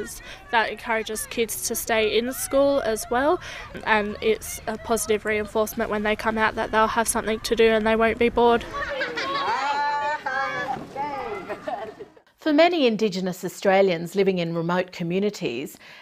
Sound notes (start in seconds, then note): 8.5 children laugh